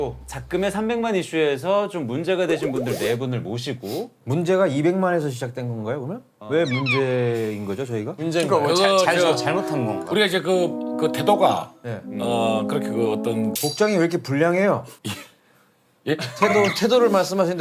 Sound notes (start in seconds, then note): 15.3 gasp